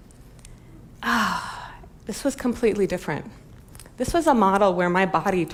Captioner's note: sighs